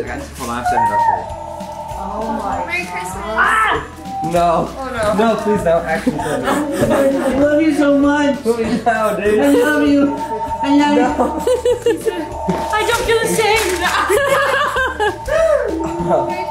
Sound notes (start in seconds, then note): 1.2 phone rings; 2.0 family chatters excitedly; 5.9 chuckles; 8.6 laughs; 10.9 group laughs; 12.3 telephone rings